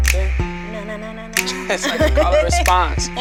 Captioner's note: laughing